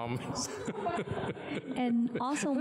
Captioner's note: laughter